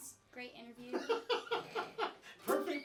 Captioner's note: laughing